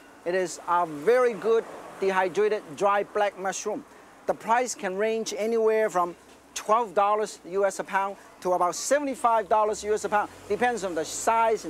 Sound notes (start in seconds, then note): none